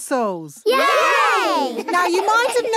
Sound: laughing

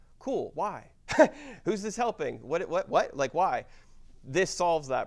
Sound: laugh

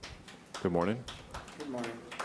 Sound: audience applauding

